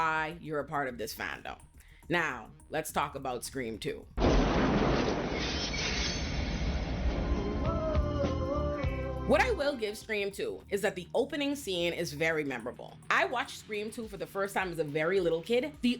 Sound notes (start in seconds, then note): 4.2 thunder